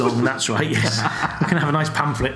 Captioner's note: laughs